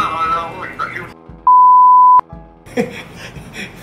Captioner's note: toooot!